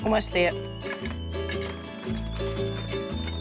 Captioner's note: kettle whistles